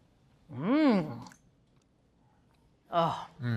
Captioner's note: moans